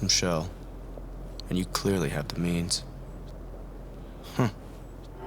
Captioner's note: chuckles